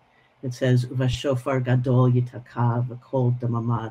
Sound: speaking hebrew

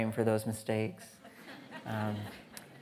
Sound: audience laughing

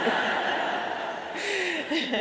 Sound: audience laughs

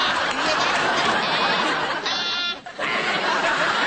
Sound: gets nasal

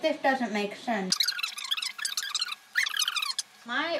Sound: voice speeds up

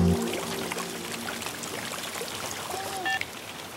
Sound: rain sound

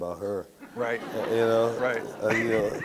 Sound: audience laughs

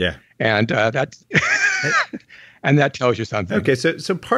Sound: laughs

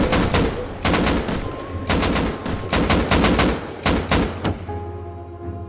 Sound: gunfire

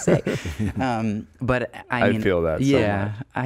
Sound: laughing

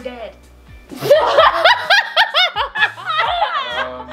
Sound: laughing

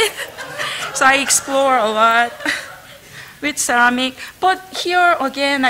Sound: laughter

